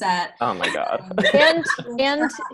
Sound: laughing

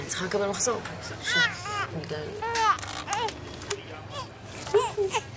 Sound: crying baby

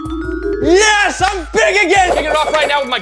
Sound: chimes

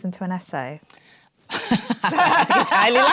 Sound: laughs

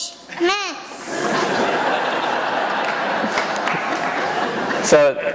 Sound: laughter

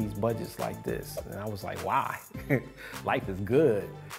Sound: laughing

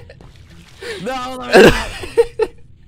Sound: laughter

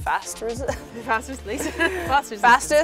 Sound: laughs

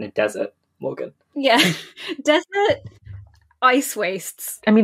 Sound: laughing

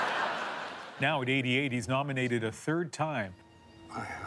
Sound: laughter

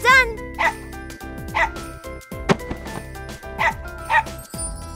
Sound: Coconut Chip barks

